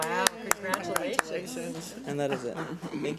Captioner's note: board members clap